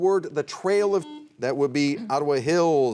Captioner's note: buzzer rings